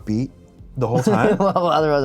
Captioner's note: laughs